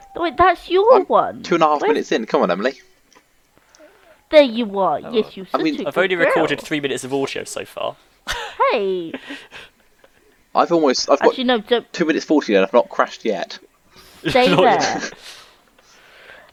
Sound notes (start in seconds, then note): 14.2 laughing